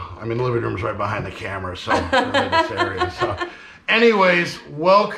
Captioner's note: chuckling